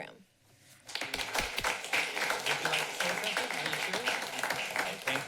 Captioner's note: applauding